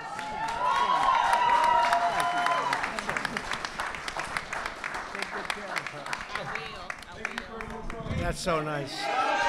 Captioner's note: applause